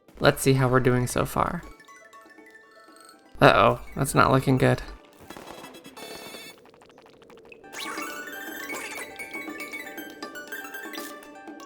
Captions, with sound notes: Let's see how we're doing so far... Uh oh. That's not looking good. [sped up game sounds]